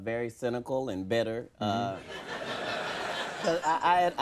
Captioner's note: audience laughing